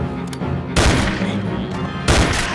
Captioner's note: gunshot